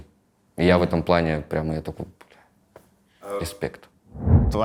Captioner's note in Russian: вполголоса